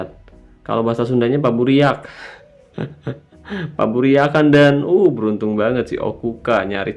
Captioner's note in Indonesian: tertawa